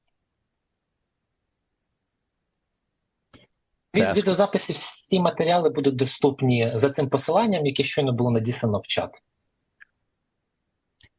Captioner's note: foreign language